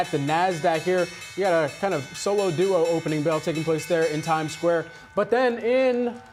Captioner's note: bell ringing